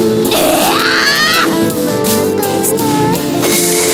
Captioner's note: roaring